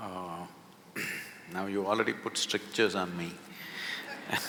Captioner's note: few laugh